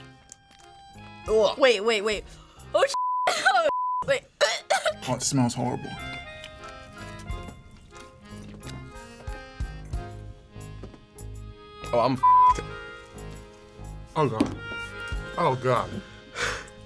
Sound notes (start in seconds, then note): 4.2 gags